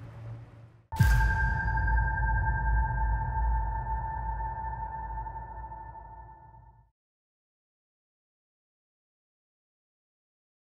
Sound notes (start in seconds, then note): 0.9 logo booms; 1.0 bright tones